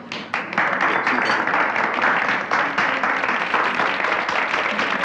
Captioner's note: audience applauding